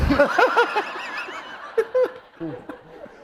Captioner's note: laughter